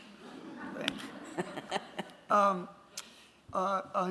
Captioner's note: chuckles